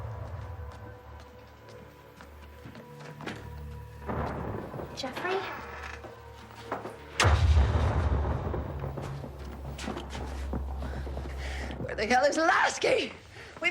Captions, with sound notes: (footsteps clacking) (thunder rumbling) - Jeffrey? (door thudding over rumbling thunder) - Where the hell is Lasky?